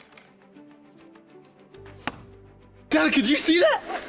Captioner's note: sound of arrow hitting target